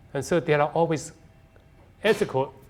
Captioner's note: none